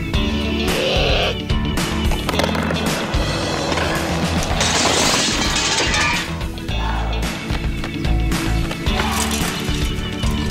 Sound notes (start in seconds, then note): 0.5 frustrated groan; 3.6 trash cans crash; 4.8 uplifting music